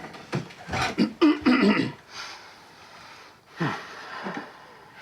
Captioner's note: clears throat